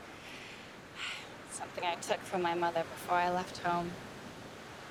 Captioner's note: sighs